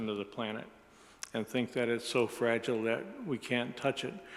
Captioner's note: none